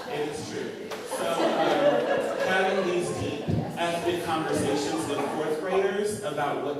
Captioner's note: laughter